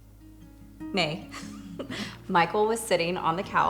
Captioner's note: laughs